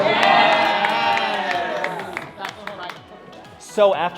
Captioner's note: campers cheering